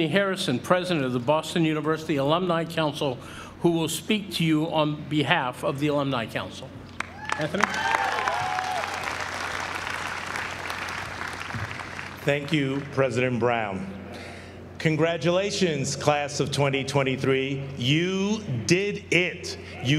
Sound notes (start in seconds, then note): 7.0 applause